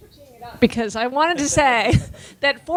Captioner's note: speaking away from microphone